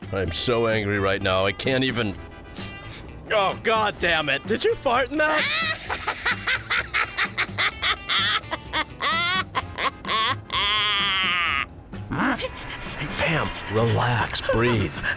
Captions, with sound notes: I'm so angry right now. I can't even-- oh, god dammit, did you fart in that? [LAUGHTER] Pam, relax, breathe.